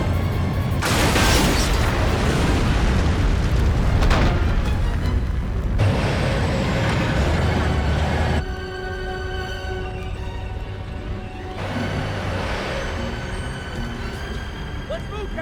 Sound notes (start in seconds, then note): 0.7 explosion booming; 6.4 tank rumbling; 12.1 tense music continues